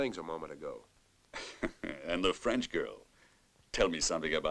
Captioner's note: chuckles